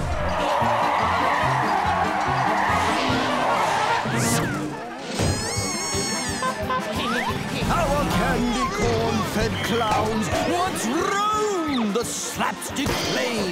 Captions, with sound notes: [squeaking] [honking] Our candy-corn-fed clowns once roamed the slapstick plains